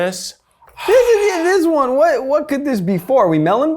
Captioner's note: squeals